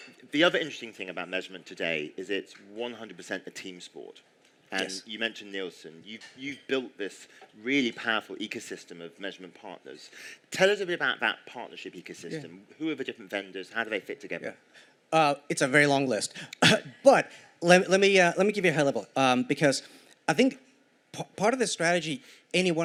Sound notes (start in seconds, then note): 16.6 cough